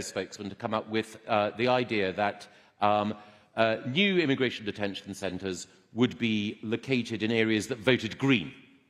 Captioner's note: none